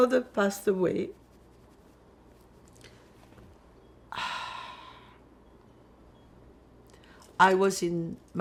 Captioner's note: pauses 6 seconds